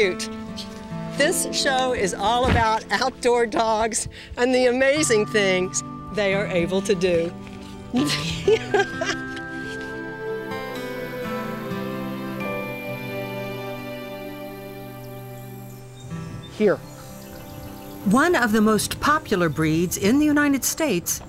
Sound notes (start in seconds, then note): 7.9 laughter